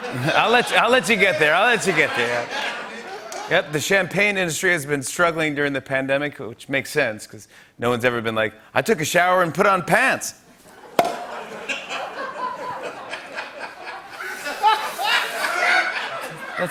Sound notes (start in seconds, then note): 10.8 laughter; 14.2 laughter intensifies